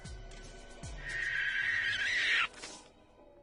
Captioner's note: monster screeching